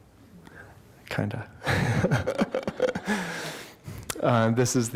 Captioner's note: laughter